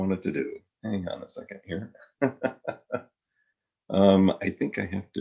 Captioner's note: laughs